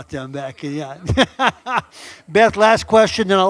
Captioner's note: laughing